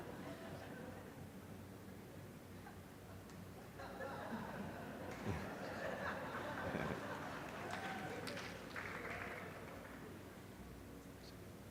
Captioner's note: laughter